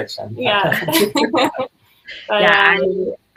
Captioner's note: laughing